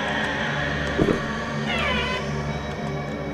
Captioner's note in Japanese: 扉が開く音